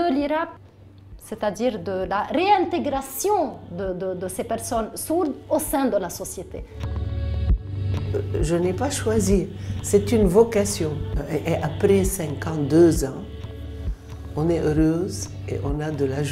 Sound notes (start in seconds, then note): 7.9 speaking French